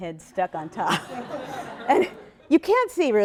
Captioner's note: laughter